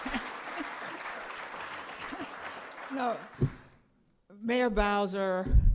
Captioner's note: applause; laughter